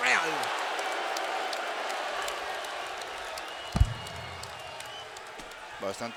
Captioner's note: applause